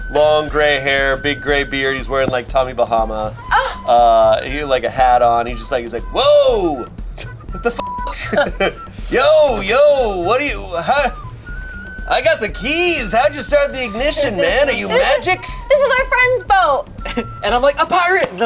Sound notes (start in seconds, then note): 7.6 beep